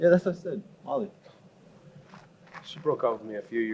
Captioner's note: scoffs